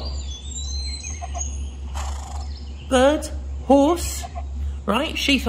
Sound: nature and birdsong noises play, alongside horse noises

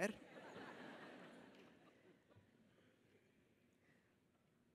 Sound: audience laughs

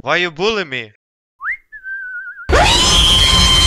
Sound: whisting

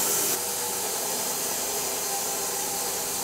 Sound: saw buzzes

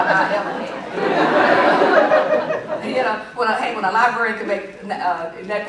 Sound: laughter

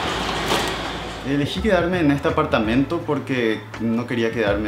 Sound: in Spanish

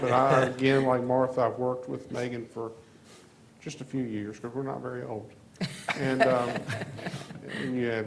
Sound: laughter

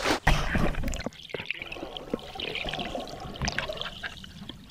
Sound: underwater sounds

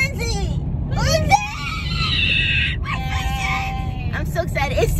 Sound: screams

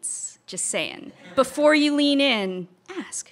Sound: audience laughter

